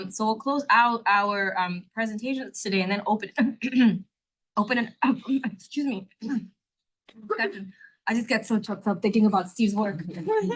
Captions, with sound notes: So we'll close out our presentations today and then open (clears throat) excuse me. I just get so chopped up thinking about Steve's work.